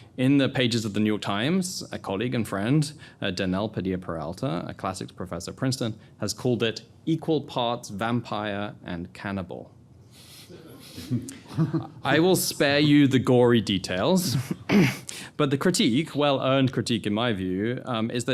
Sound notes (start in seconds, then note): 10.4 attendees chuckling